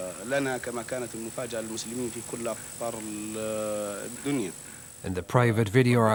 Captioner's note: speaking in Arabic